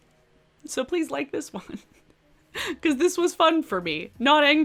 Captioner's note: giggles